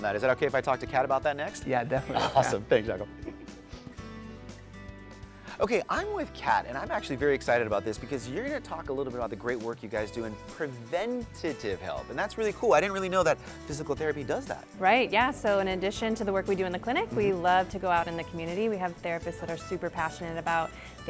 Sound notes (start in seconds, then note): 1.9 laughs